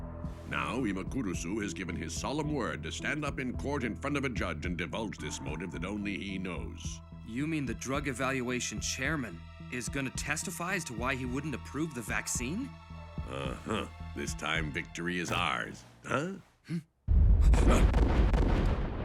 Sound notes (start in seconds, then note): 15.1 electricity crackles; 16.0 both gasp; 17.0 gunshots